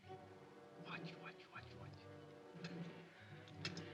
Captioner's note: whispers; ominous music